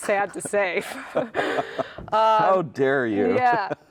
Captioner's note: laugh